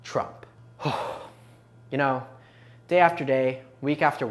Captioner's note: dramatic exhale